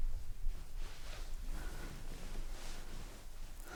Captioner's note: bed sheets moving